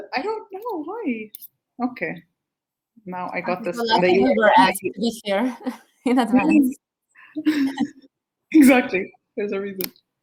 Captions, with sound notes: I don't know why. Okay, now I've got the ... [ Chatter ] >> Exactly. There's a reason.